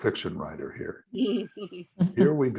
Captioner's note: laughing